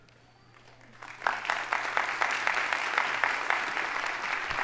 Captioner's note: audience applauding